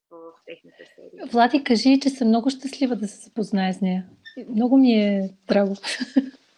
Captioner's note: foreign Language followed by English Interpreter